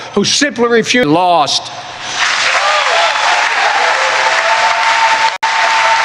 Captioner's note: applause